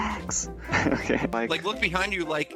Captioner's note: laughing